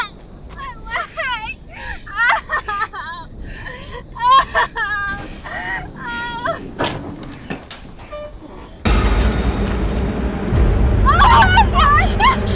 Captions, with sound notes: My leg! (groans) (door creaks) (suspenseful music) Oh my god!